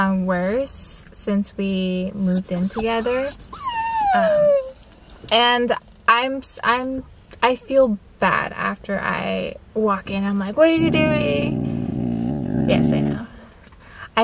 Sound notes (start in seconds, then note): 3.6 Java whining